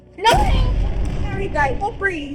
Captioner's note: power booming